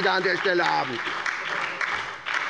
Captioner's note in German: Beifall bei der SPD, der LINKEN und der FDP